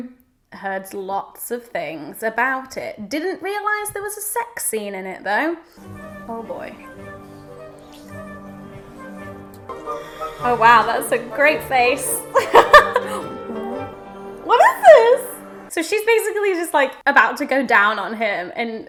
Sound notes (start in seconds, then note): 12.3 laughs